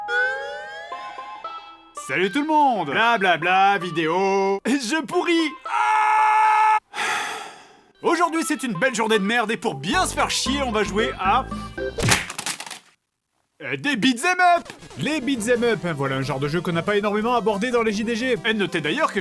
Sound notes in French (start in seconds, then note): 5.6 Criant; 6.9 Soupir